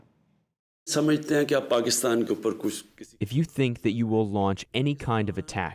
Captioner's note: through translator